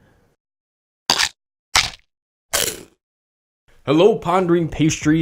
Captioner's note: biting noise